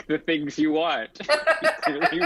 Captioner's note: laughs